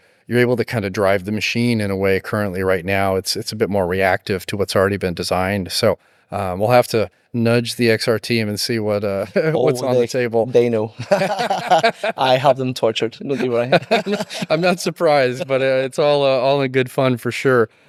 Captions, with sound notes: you're able to kind of drive the machine in a way currently right now. It's a bit more reactive to what's already been designed. So we'll have to nudge the XR team and see what's on the table. They know. (laughing) I have them tortured. No, do I? I'm not surprised, but it's all in good fun for sure.